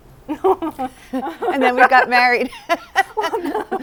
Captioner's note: laughter